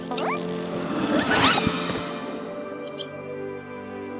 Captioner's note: caterpillar noises